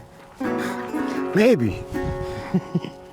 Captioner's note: chuckles